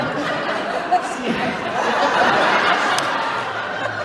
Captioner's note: laughing